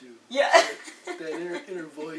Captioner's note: laughs